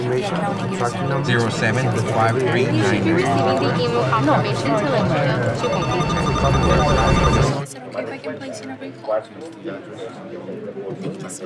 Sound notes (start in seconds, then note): 3.5 inaudible office sounds; 5.5 phones ringing